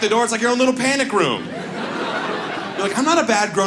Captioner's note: audience laughs